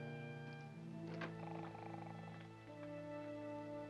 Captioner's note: soft music; snoring; soft music